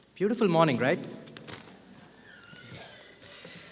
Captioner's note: none